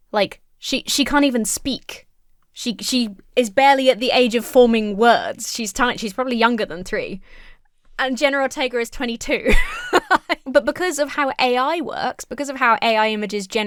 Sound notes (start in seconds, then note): 9.4 laughs